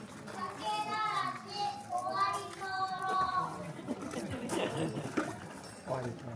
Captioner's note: children's voices